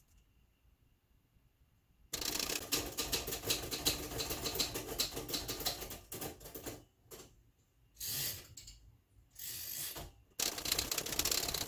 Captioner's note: typewriter clacking